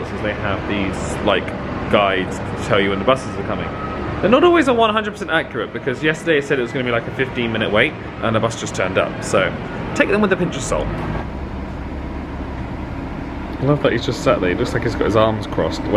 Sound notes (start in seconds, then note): 11.5 bus engine whirring